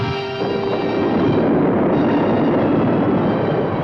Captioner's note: rocks rumbling